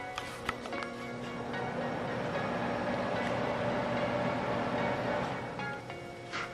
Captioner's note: sound of the fan running